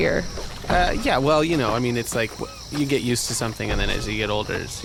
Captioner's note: stammering, a bit defensive